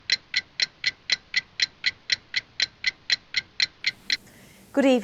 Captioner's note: ticking clock